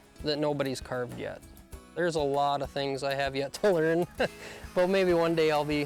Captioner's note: laughs